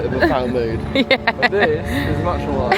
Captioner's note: laughs